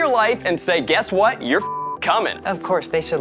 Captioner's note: beep